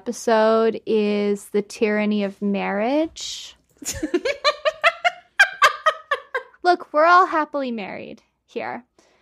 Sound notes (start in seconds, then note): 4.0 cackling; 8.7 crying